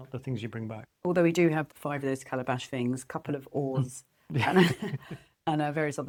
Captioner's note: laughs